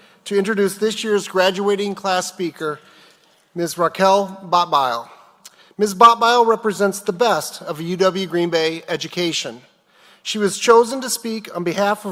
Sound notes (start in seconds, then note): none